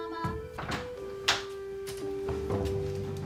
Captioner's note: door opening